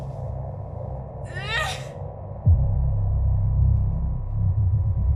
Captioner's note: guttural screech